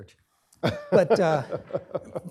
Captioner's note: laughs